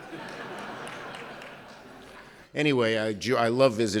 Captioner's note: laughter